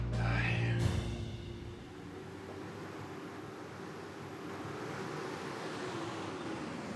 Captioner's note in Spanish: ruido del motor